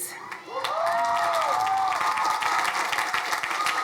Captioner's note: crowd cheering